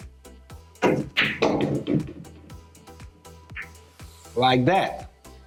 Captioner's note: pool balls clacking and thudding